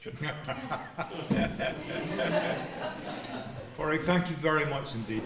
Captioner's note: laughter